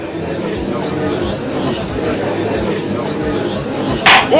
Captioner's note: gallery chattering